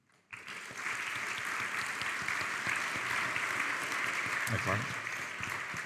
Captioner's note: audience clapping